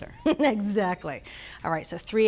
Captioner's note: chuckles